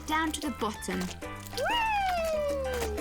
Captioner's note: exclaiming